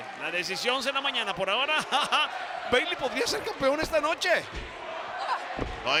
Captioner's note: laugh